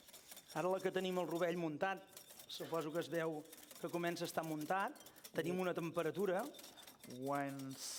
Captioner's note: non-english speech